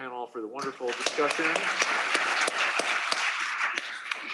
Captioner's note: applause